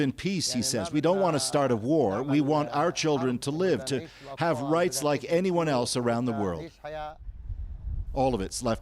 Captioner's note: speaking another language